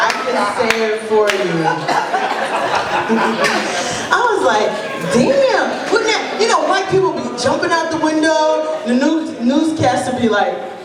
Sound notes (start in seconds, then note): 1.6 laughter